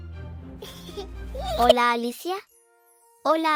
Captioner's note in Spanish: risas